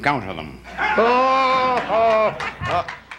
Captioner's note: laughter